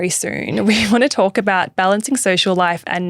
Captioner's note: laughing